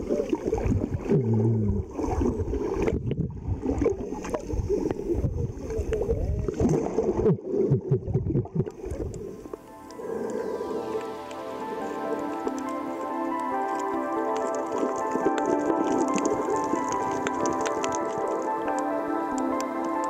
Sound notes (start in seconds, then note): 2.3 water rippling; 10.0 uplifting music; 17.1 water rippling